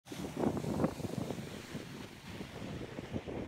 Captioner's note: wind blowing